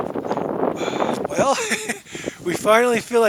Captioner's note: laughing